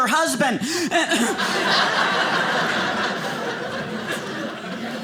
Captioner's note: audience laughing